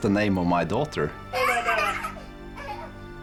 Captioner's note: laughing